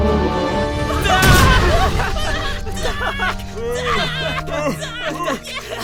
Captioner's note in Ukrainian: адам це зробииииив